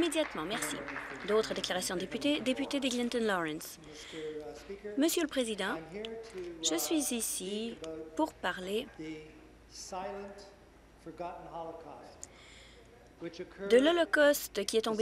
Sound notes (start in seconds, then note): 1.7 some Applause